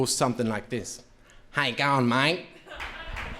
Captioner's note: foreign language